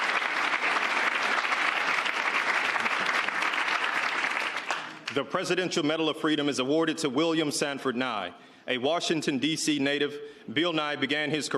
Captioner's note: cheers and applause